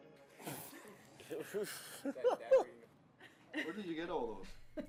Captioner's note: laughing